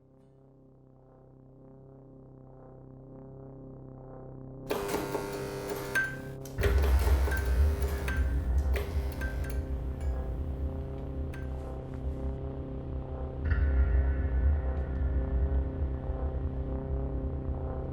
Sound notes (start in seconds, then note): 4.7 electronic buzzing; 9.1 ominous low rumbling